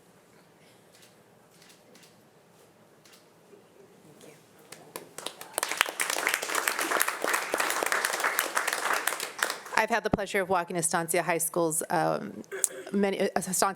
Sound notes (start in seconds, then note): 4.7 audience applauding